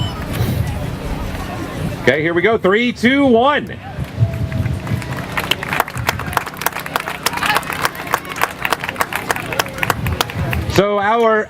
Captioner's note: applause